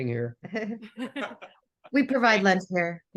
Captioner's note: all laughs